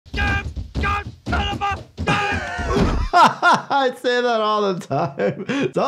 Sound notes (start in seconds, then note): 0.1 Homer shouting incoherently; 0.3 thudding; 2.1 laughing